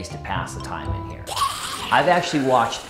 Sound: zombie screaming

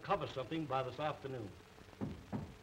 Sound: knocking

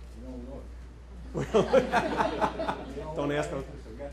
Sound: loud laughing

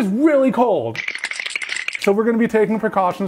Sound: teeth chattering

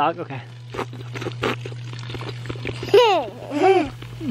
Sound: lapping; boys laughing

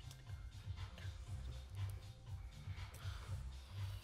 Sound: Mel whispers; Debs whispers; Mel whispers

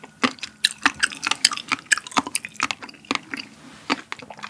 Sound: popping

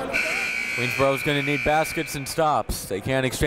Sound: buzzer goes off

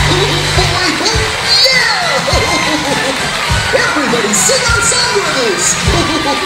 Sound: audience clapping

